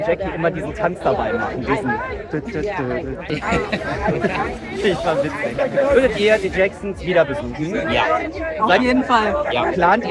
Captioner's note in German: gelächter